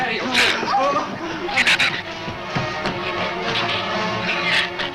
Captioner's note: shrew snarls